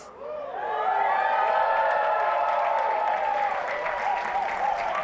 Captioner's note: applause, cheering